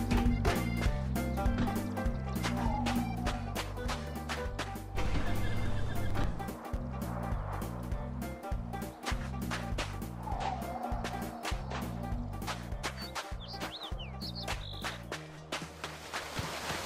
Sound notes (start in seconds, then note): 0.0 steps; 9.2 steps; 11.6 steps; 13.7 birds singing; 15.2 steps